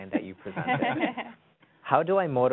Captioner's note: laughs